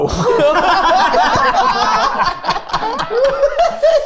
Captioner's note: group laughing